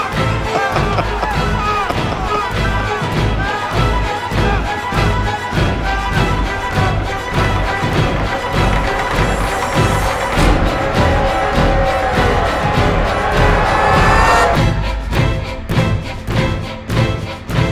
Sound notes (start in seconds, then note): 0.2 laughing; 5.0 tense music; 11.9 scream; 15.1 tense music